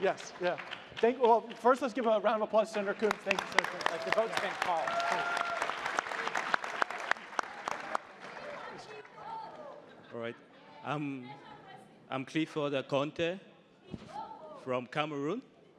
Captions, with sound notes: - Forgive me. - Sure, yes, yeah. First, let's give a round of applause to Sen. Coons. Thank you, sir. - Thank you both. (crowd applauding) - All right. I'm Clifford Akonte from Cameroon.